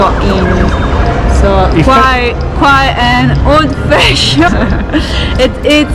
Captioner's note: laughing